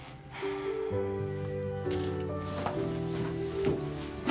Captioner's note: sighs